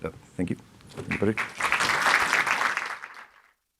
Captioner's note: applause